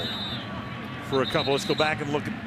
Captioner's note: whistle